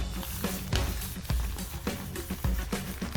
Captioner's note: mushy stirring